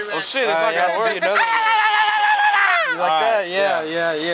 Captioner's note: different tribal yelp